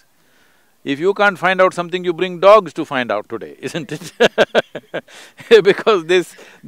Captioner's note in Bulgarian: Смее се